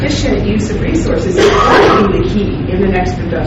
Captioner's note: coughing drowns out speaker